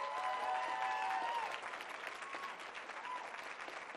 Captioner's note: cheering and applause